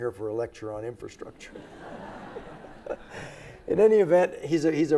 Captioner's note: everybody laughs